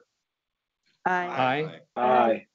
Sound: multiple voices

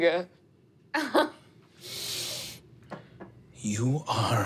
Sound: laughs

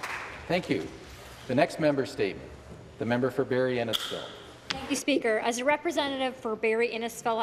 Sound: applause

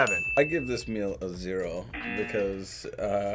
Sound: buzzer

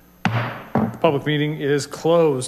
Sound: gravel bangs

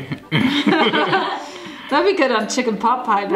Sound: laughing

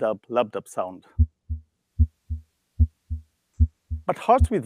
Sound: heart beating

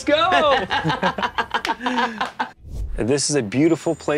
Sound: laughs; palms smack

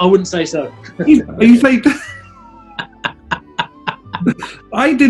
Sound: giggling

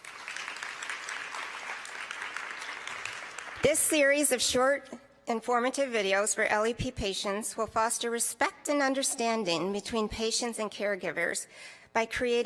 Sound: applause

